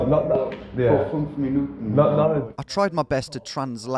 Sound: speaking foreign language

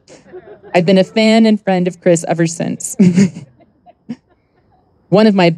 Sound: chuckles

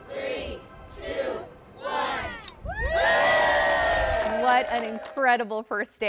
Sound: cheers and applause

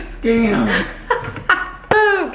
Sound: laughing

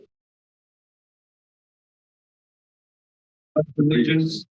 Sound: silence

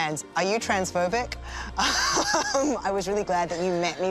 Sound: laughing

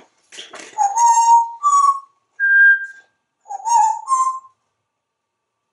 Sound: Whistles part of the Andy Griffith tune

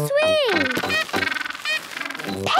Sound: honking

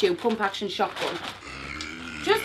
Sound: growls

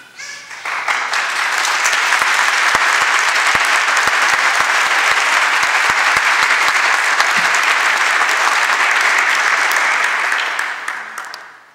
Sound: applause

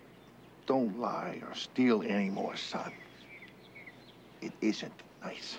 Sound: birds chirping

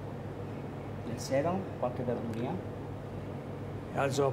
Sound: speaking Italian

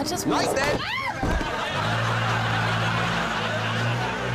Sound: screaming

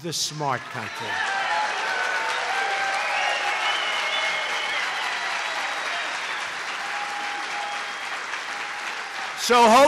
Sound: applause

